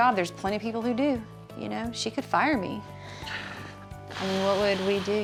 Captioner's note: sighs deeply